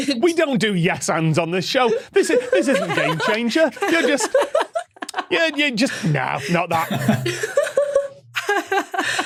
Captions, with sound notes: We don't do yes-ands on this show. This isn't Game Changer. You're just... "Nah, not that." (group laughing)